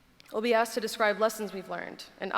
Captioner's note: none